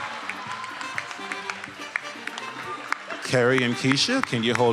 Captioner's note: attendees applauding